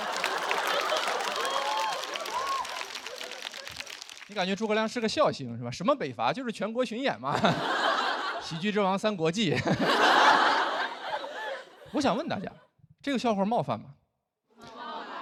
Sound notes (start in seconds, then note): 9.5 audience laughs